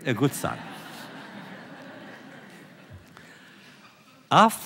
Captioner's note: laughter